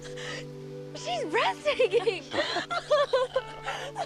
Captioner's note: laughing